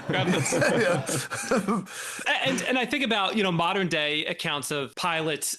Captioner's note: laughing